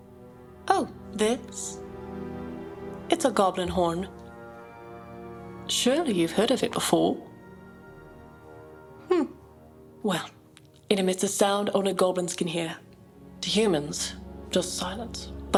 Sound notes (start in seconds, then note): 7.5 Perscilla scoffs